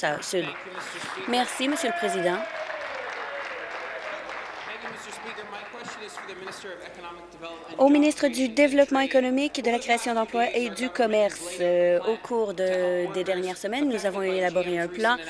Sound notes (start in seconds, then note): 3.9 applause; 6.5 cheers